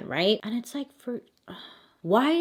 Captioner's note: sigh